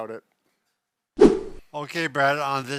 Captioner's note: air swooshing